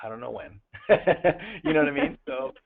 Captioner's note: luaghter